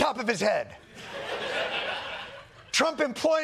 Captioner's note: laughter